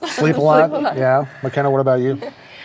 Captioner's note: chuckles